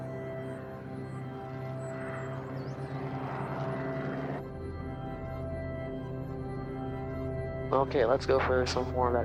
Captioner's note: airplane rumbles